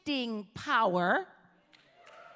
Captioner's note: cheers and applause